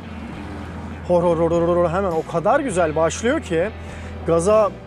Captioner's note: imitating the sound of engine